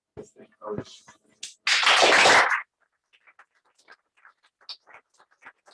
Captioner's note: applause